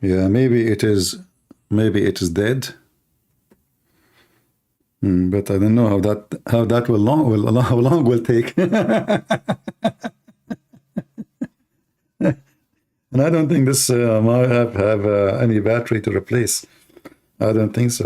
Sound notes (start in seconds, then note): 8.5 Ketawa